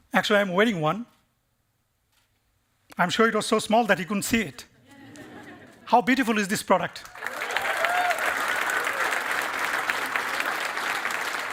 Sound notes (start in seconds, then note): 7.0 applause and cheering